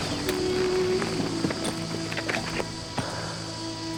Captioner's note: steam hissing